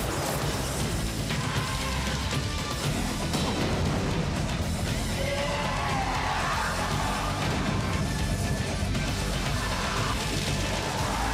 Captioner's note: explosions